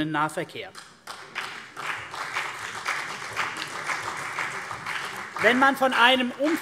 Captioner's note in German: Beifall CDU und BÜNDNIS 90/DIE GRÜNEN